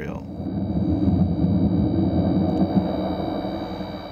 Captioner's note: processed sound of cotton gin motor